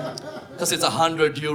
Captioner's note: audience laughing